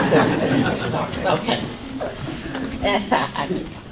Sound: audience laughter

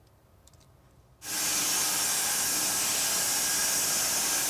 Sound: saws loudly

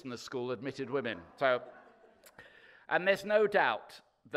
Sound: audience laughing

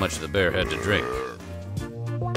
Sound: belching sound

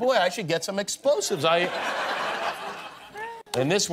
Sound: laughter

